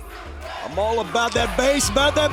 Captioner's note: fans chanting